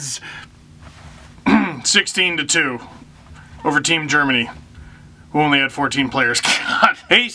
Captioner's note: clears throat